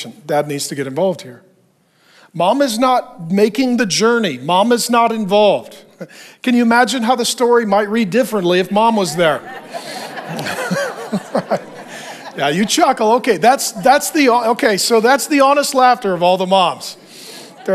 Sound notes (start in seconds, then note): 8.9 chuckling; 9.8 congregation laughing